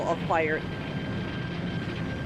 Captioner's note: fire roaring